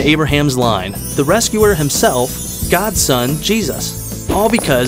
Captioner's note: chimes